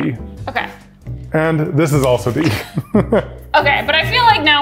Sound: laughs

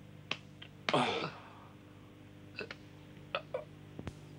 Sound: man groaning

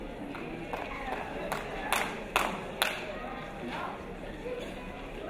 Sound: crowd applauding

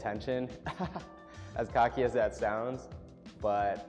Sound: laughs

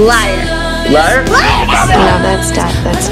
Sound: incoherent yelling

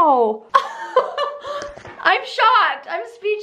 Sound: laughs

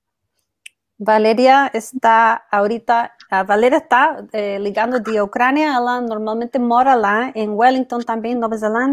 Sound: speaks portuguese

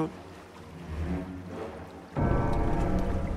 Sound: bell tolls ominously

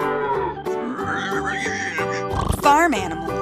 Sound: cow moos; pig squeals

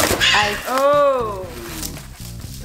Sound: bird squawking loudly

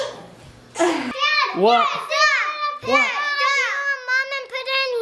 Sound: shouting

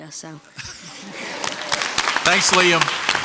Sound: crowd applauds

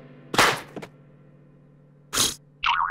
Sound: blows

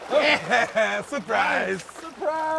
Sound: fish splashing

